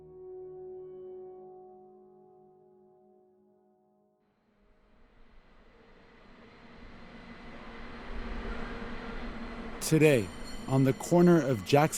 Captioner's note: soundbite of cable car